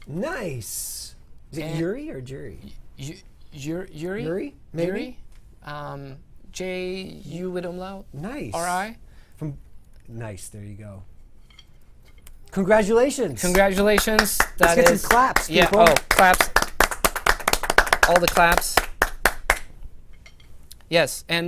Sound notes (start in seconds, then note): 13.5 applause